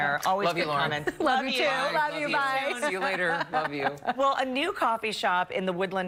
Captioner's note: laughter